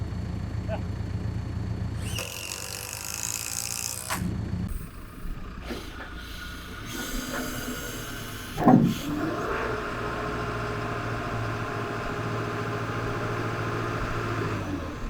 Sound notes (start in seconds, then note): 3.0 truck engine whirring